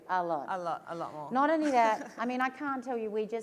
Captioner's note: laughs